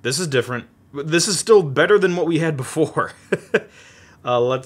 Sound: chuckles

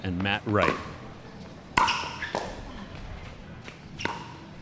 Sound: ball bouncing

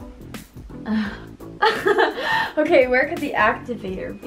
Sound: exhales and laughs

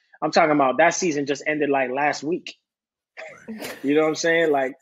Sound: laughing

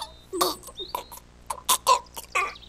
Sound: gasping; gargling

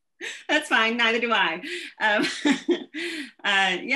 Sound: laughs

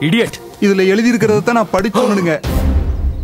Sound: gasps

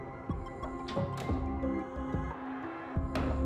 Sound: door closing

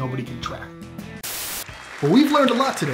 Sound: static hissing

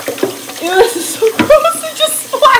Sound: laughs

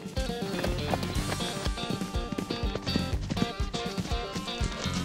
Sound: horse hooves trot

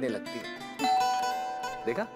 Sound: doorbell ringing

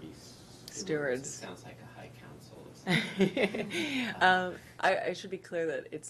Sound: laughter

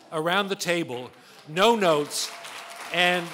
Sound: applause

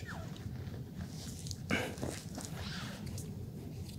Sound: mats rustling

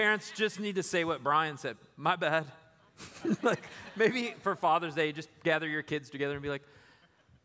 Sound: laughter

